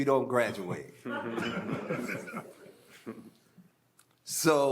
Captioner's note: audience laughing